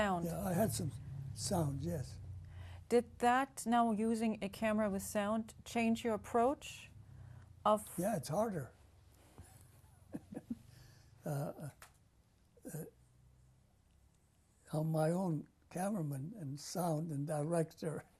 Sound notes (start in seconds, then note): 10.1 laughs; 11.2 pauses for 3 seconds